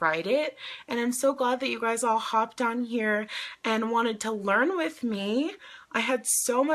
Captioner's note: inhales